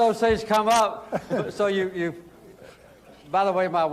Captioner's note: laughter